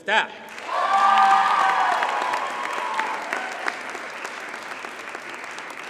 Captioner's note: audience cheers and applauds